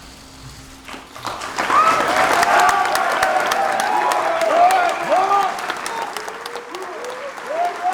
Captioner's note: applause